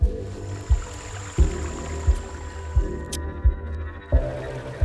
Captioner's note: intense music; water rushes; intense music